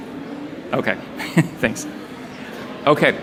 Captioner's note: laughs